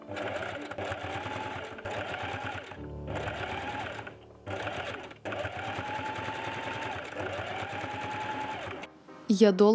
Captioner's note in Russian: стук швейной машины